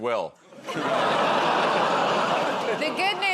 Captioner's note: laughter